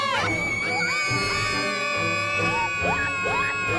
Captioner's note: girls screaming